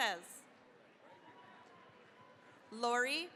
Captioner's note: cheering, applause